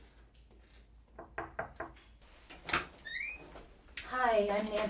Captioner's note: knocks